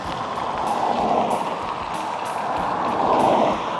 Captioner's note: traffic passes